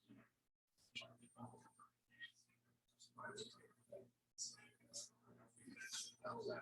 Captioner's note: people chattering indistinctly continues